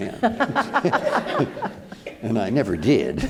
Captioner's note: all laughing